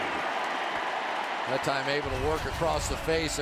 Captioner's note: cheering